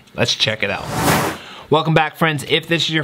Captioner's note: whoosh